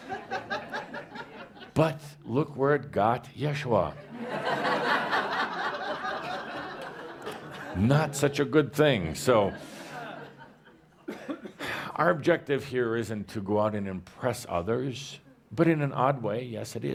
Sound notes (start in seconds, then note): 0.2 laughter; 4.1 more laughter